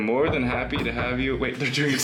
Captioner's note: knocking on door